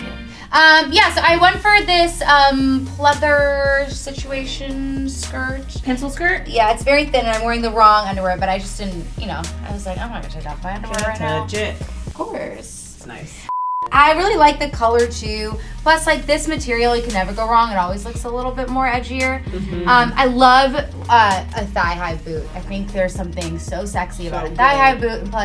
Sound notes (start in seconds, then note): 13.5 beep